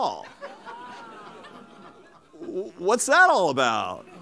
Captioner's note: laughter